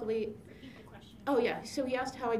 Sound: voiceover

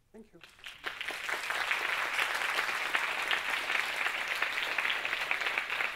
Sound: audience applauding

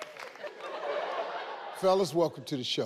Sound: audience laughing

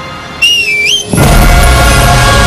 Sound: wife whistles

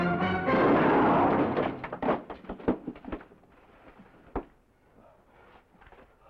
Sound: gun shot

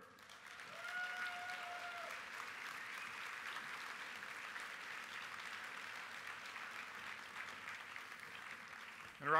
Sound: applause

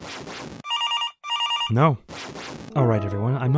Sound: house phone rings

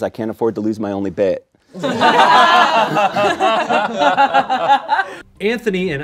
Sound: laughter

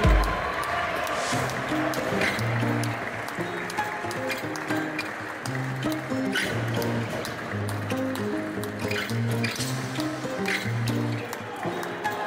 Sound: applause; ♫ Midtempo guitar music ♫

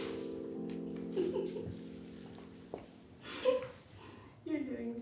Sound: giggles

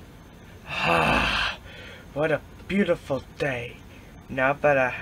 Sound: sigh

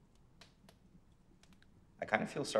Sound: fire crackling

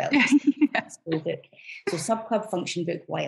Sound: laughs

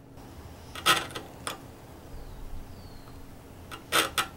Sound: wood scraping

